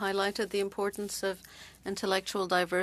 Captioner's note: speaking French